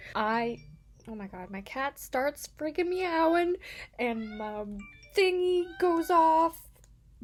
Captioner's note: phone chirps; cat meowing; phone chirps